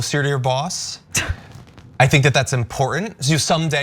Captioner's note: laugh